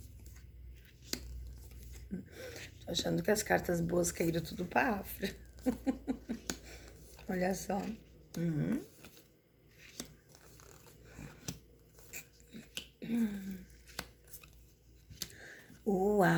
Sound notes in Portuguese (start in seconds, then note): 9.5 risadas